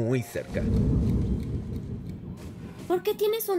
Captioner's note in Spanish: tic tac del reloj